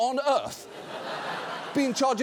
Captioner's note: audience laughs